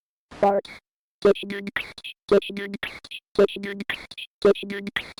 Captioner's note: blue bow bot beatboxing